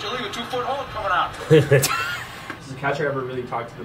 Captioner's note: players laughing